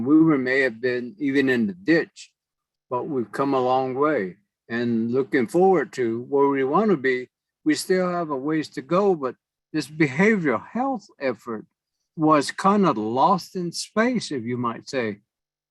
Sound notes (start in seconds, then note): none